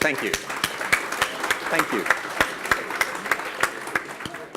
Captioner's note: audience claps